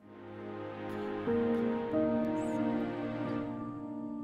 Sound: girl whispering

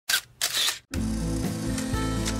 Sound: camera snapping; light music

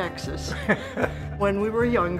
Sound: laughing

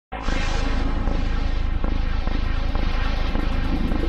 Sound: deep digital heartbeat

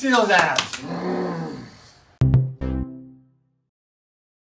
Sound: growling

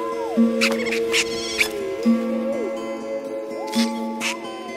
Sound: squeaking

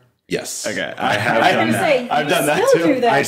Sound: laughing

